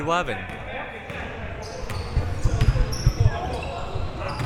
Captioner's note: ball pounding